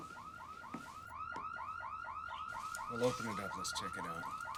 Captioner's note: alarm blaring